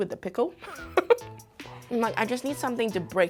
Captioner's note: laughs